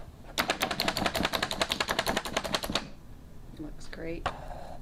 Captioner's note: chopper thumping